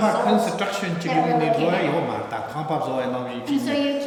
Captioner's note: speaking tibetan